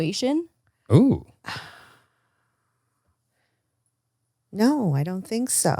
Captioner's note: sighs